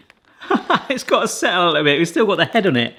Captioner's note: laughs